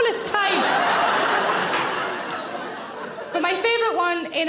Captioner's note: audience laughs